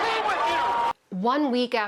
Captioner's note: cheering and applause